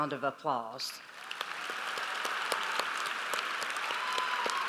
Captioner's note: audience applauds